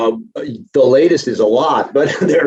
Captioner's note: laughs